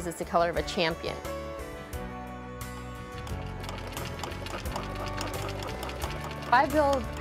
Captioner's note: sewing machine